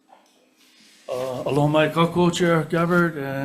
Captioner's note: speaking in foreign language